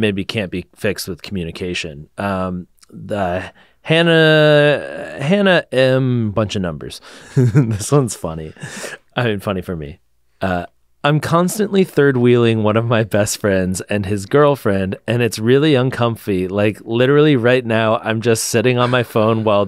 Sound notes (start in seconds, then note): 7.2 laughs